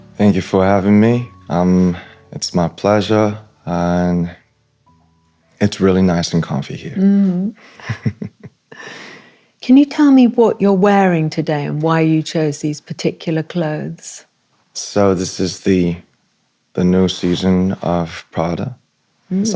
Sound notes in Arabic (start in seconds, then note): 7.7 ضحك